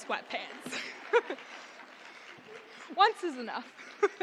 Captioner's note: audience applauding; laughs